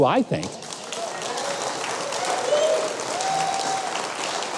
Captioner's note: audience applauding